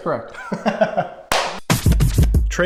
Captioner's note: laughing; upbeat music